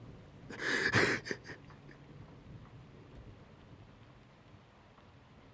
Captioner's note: sobbing